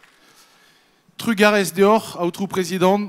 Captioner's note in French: Applaudissements; Il parle en breton